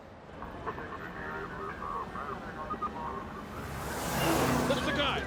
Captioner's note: police radio chattering; car engine roaring